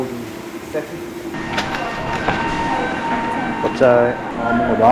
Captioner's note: familiar siren sound